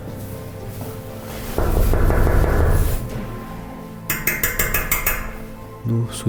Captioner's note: knocking on the door